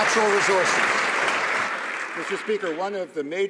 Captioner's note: some Applause